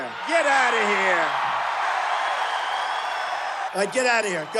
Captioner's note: crowd cheering